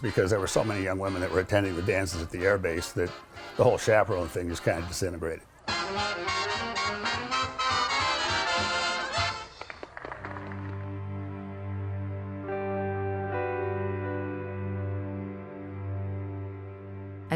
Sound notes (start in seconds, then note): 6.4 lively orchestra music; 9.8 people applaud; 12.0 somber music